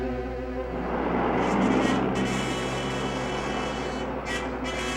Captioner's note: car engine revving